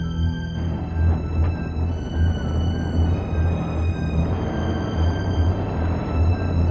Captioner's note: suspenseful music continues; vehicle droning